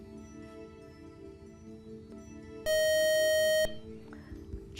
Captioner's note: buzzer